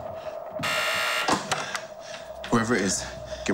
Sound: intercom buzzes

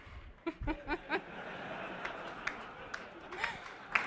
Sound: laughter and applause

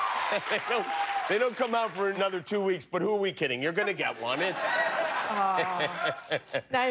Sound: cheers and applause

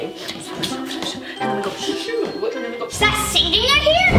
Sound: whisper

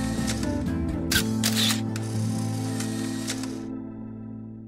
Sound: light music; camera snapping

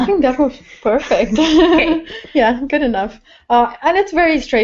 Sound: laugh

